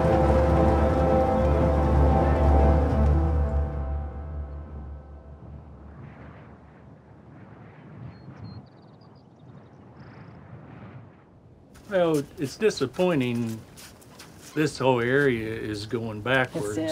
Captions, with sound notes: [wind hissing] [birds chirping] - Well, it's disappointing, this whole area is going backwards--